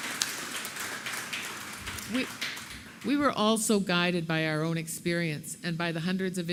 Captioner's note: applause